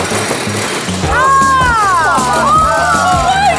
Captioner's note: excited shouting